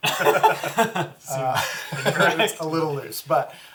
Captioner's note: all laugh